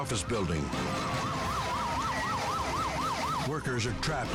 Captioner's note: sirens blaring